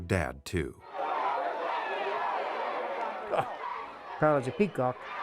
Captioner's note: crowd cheering